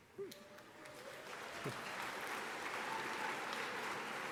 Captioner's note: audience applauding